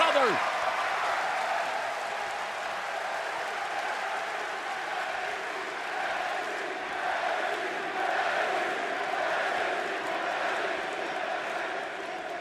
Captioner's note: crowd cheering